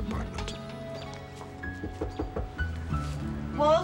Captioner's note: knock on door